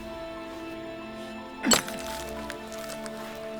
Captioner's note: crunch